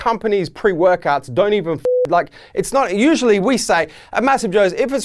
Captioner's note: beeping